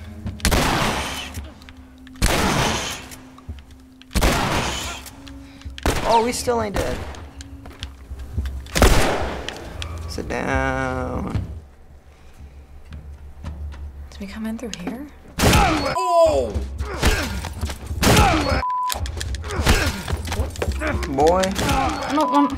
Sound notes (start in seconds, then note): 0.2 cocking gun; 0.4 gunshot; 8.7 gunfire; 15.4 Joel grunts; 19.5 Joel grunts; 21.2 button mashing